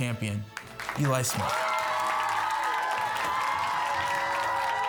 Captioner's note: audience cheering